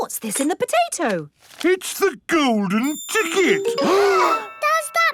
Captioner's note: gasps